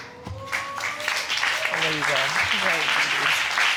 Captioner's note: audience clapping